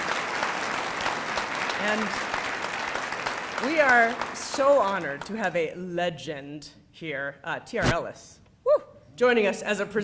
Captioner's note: applause